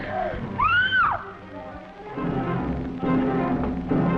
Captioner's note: Jean screaming